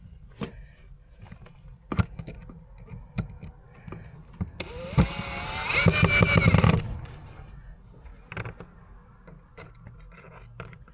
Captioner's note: drill whirring